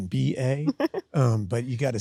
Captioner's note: Sydney laughs